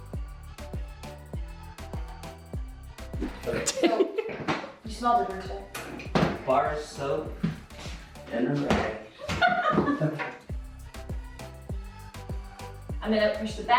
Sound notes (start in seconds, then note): 3.3 team laughing; 9.1 laughs; 10.5 upbeat music